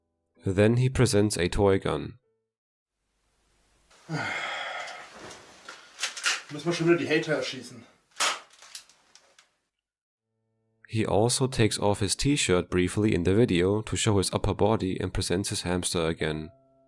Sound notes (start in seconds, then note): 3.9 sighs; 5.6 loads gun